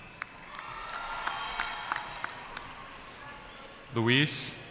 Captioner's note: cheering